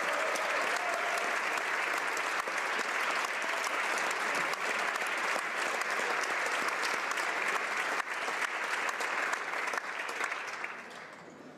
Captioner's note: some Applause